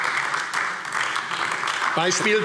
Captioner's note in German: Beifall AfD